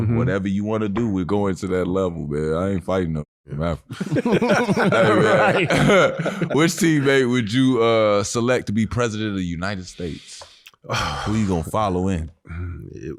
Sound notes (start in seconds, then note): 3.9 Robert laughing; 3.9 laughing